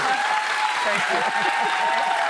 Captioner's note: laughter